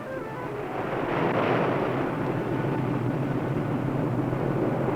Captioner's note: waves crashing